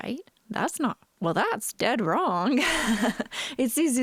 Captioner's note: laughing